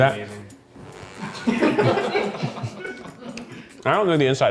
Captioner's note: crew laughing